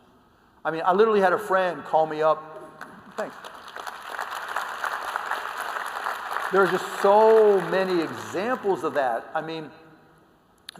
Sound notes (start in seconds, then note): 2.8 applause